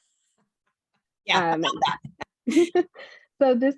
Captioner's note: laughs